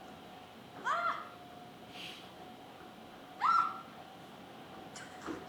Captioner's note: screams